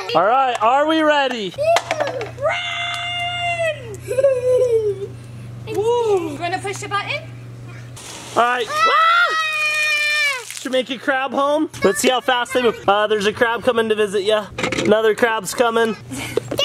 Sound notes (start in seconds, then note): 1.4 laughing; 8.0 water splashes; 8.6 screaming